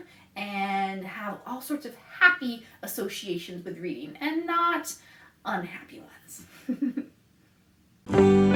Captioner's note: laughs